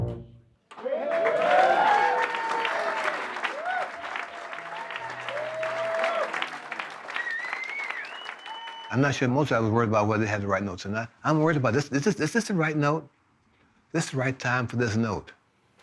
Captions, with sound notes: (audience applauding and cheering) I'm not sure Mozart was worried about whether they had he right notes or not. I'm worried about, is this the right note? Is this the right time for this note?